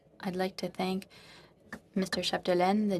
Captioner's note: speaking in french